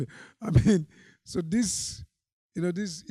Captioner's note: chuckling